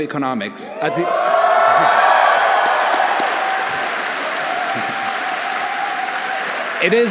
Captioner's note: audience cheering; audience applauding